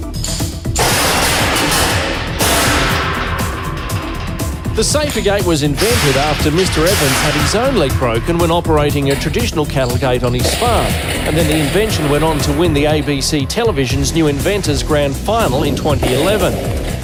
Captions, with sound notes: [Loud bang] The SaferGate was invented after Mr Evans had his own leg broken when operating a traditional cattle gate on his farm. The invention then went on to win the ABC Televisions New Inventors Grand Final in 2011.